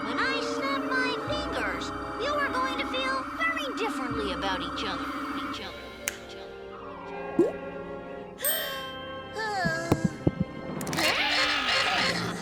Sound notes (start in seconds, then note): 6.0 fingers snap; 9.0 Otto gasps; 9.6 heart beat pumping